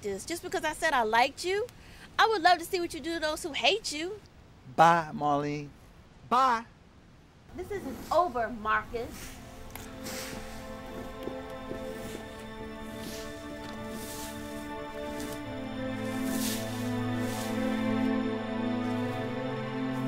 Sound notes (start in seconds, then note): 10.3 leaves rustling; 13.0 dramatic music